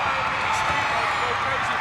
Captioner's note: crowd cheers; crowd continues cheering